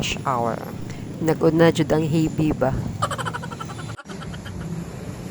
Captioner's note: laugh